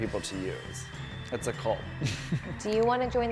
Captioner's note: chuckling